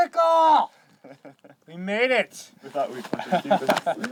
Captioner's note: chuckling